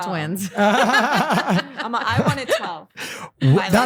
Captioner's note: laughing